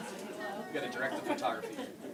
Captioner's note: laughter